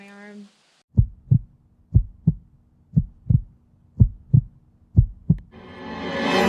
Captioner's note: heartbeat